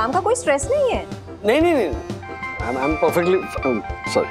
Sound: cell phone ringing

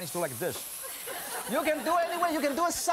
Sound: laughing

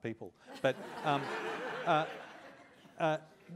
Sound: laughter

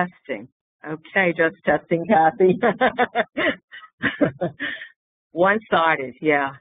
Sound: laughter

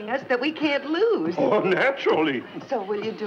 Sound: none

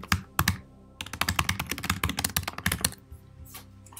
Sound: keyboard clicking

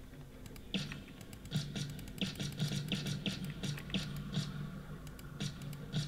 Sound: shots

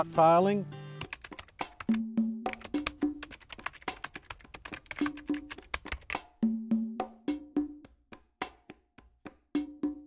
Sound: typing

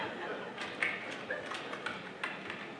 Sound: typing

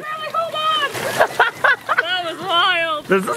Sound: laughs

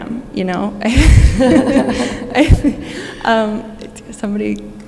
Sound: both laughing

